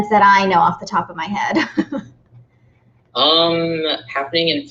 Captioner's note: laughing